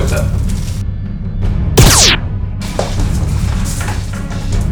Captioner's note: laser noise